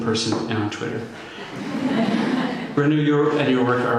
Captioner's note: laughter